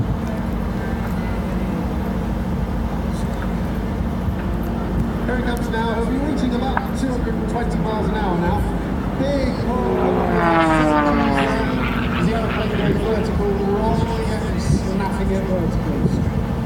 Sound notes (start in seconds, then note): 10.1 engine noise